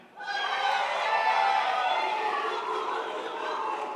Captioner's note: crowd applauds